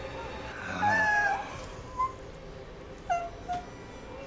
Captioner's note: Maria crying